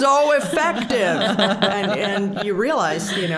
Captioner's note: all laughing